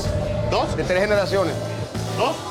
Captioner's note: speaking Spanish